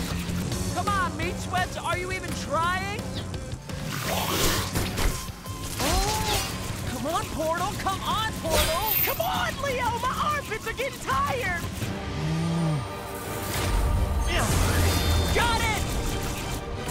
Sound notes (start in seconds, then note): 3.8 spits; 12.1 grumbles; 13.6 majestic music